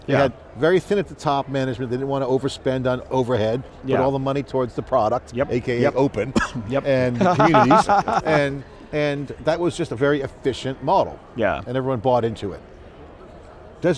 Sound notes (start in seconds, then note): 6.2 coughs; 7.1 laughs